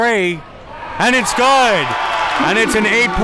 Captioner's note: crowd cheers